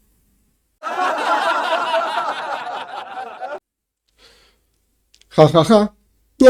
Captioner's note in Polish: śmiech